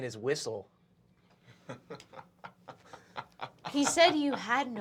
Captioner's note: Fabian laughs